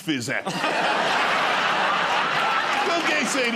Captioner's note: laughter